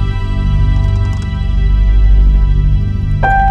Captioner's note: Door creaking